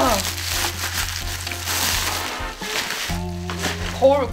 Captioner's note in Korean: 비닐 소리